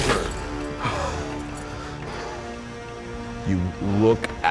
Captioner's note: breathing heavily